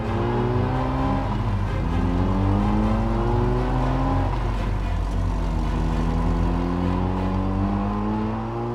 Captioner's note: engine Noise